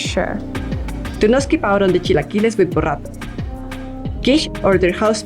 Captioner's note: narrator 2 speaks foreign language